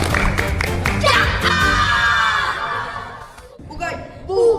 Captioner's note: ending with a loud cheer